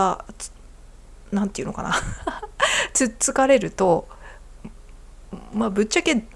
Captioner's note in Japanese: 笑い